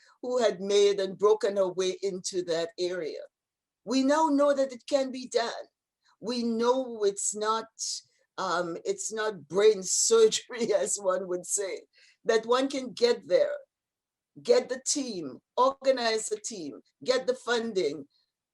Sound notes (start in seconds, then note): none